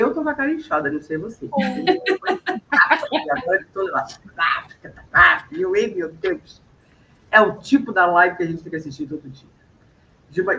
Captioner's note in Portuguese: risadas